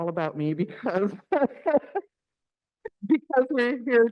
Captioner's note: laughs